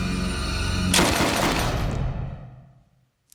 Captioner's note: gunshot